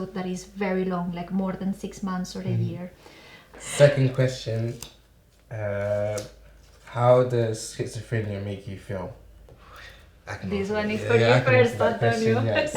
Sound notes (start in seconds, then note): 9.6 sighs